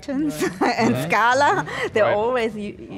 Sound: laughing

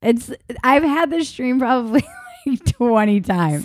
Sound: laughing

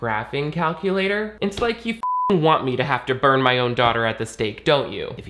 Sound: beep

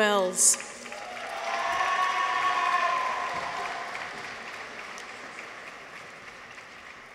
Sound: audience applauds; people cheer

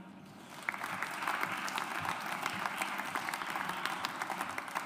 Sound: audience applauds

